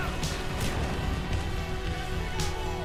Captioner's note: explosion